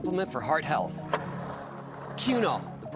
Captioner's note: skateboard wheels roaring